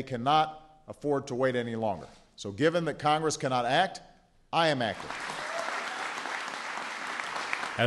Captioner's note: cheering and applause